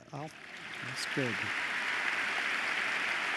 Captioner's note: applause